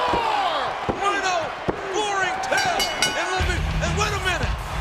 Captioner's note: bell chimes